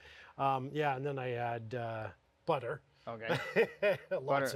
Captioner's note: laughs